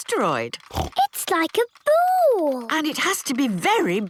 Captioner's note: snorts